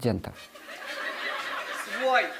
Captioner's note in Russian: звучит смех